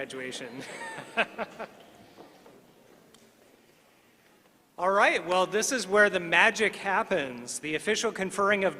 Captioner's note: laughter